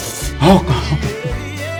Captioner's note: gasping